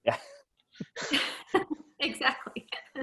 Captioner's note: all laughing